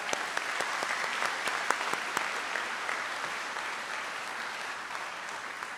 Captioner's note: trustees and audience applaud